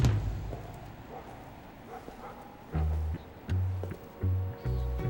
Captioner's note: dog barking; suspenseful music